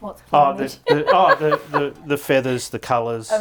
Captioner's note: laughing